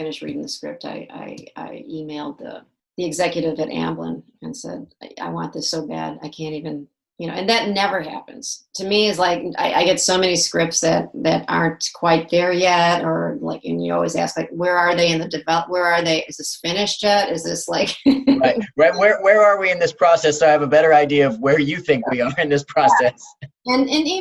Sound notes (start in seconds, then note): 18.1 laughs